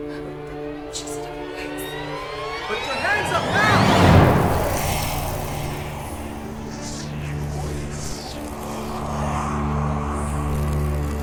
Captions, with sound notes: (gasps) She doesn't have any legs. - Put your hands up, now! (dramatic, jarring music) (disembodied whispers)